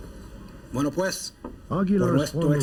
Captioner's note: speaks Spanish